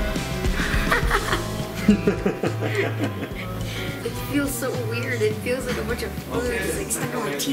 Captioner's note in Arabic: يضحك